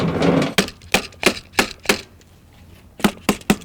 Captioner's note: tool knocking